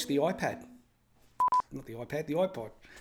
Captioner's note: beeping